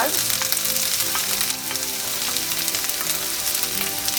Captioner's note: frying sound; uplifting music